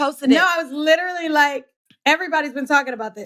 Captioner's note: laughs